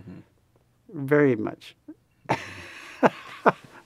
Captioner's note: laughs